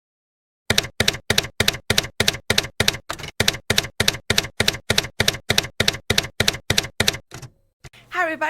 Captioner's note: typewriter keys clacking